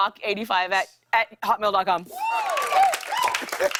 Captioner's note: cheers and applause